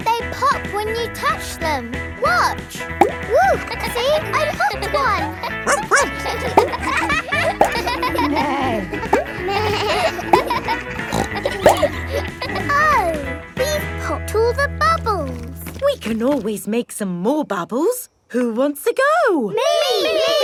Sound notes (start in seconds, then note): 3.9 kids laughing; 5.6 barks; 8.6 bleats; 8.6 neighs; 11.6 snorts